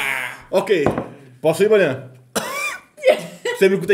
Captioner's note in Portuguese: risos; tosse